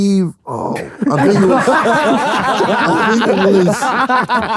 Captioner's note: group laughs